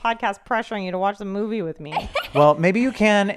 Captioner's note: giggles